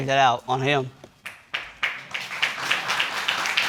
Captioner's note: audience applauding